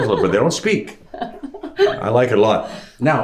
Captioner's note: laughing